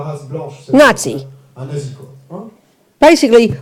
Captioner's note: French